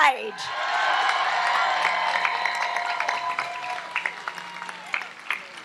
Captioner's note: audience applauds and cheers